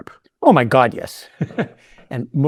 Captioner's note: laughing